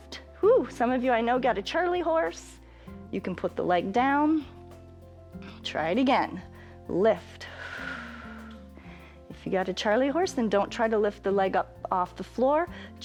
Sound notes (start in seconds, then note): 7.4 exhales